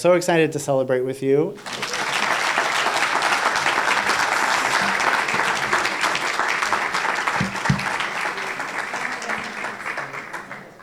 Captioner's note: applause